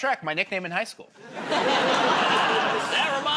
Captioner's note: laughter